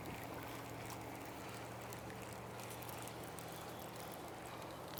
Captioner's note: water splashing